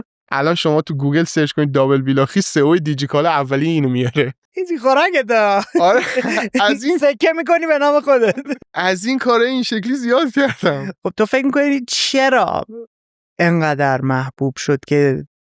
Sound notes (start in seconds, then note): 8.1 laughs